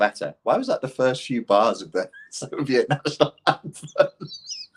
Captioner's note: laughs